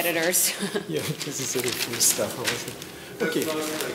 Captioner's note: mutters